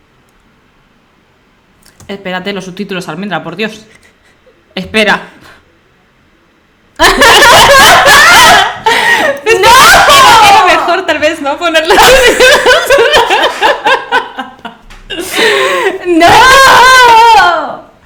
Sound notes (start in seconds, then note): 7.0 cries; 7.0 laughs